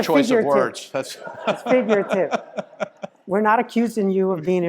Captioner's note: laugh